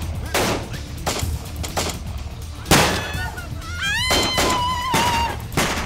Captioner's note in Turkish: Silah sesleri